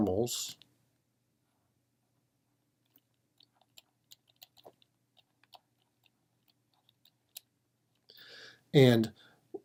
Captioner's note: typing